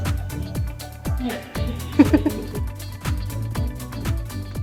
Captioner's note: chuckles